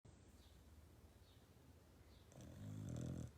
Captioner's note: dog snoring